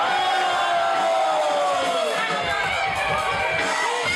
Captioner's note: crowd cheers